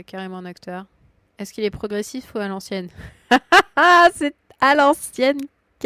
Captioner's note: laughs